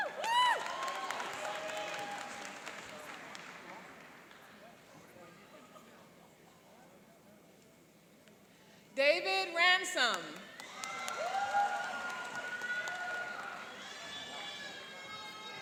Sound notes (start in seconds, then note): 0.0 cheering and applauding; 10.4 cheering and applauding